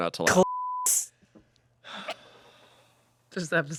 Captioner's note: beep